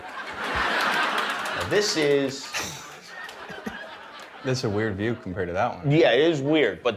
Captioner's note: laughter